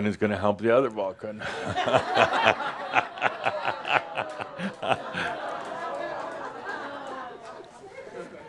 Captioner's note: laughter and audience says “Ohhh!”